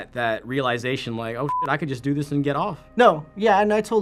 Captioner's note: beep